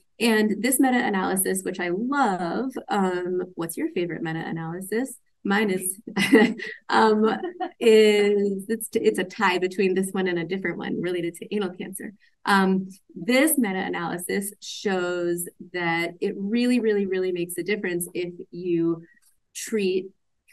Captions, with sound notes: And this meta-analysis, which I love... What's your favorite meta-analysis? Mine is... (laughs) It's a tie between this one and a different one related to anal cancer. This meta-analysis shows that it really, really, really makes a difference if you treat